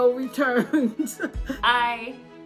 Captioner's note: chuckles